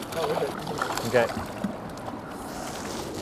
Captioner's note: splashing